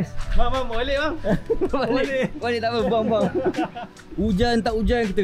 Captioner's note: laugh